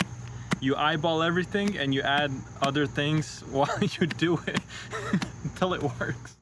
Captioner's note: laughing